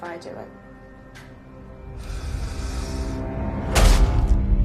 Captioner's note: inhaling sharply